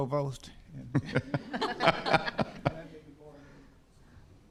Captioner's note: all laughing